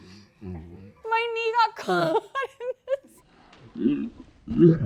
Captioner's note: grunting in slow-motion; laughs; grunting in super slow-motion